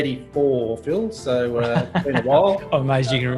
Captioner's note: laughs